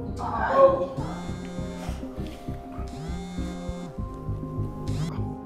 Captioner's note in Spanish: Teléfono vibrando